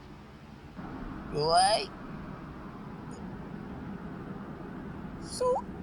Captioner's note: noisy city